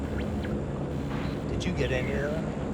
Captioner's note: static crackles